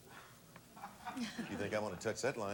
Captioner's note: audience laughing